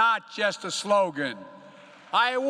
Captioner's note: applause